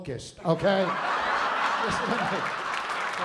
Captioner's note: laughter